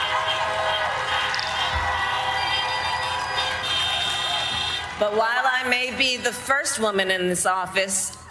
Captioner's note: cheers and applause